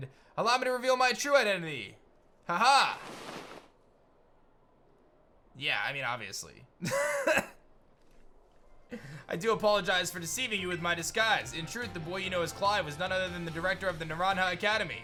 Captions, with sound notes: Allow me to reveal my true identity. Ha-hah! Yeah. I mean, obviously. (chuckles) I do apologize for deceiving you with my disguise. In truth, the boy you know as Clive was none other than the director of the Naranja Academy.